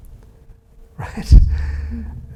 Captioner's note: chuckles